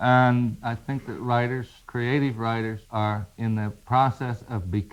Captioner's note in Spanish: none